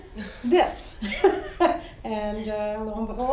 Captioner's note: laughs